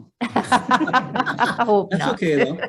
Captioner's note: members laughing